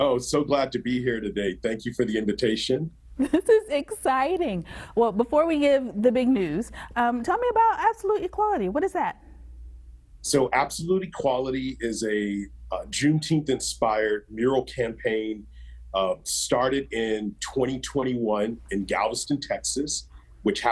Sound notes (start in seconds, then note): 3.2 giggles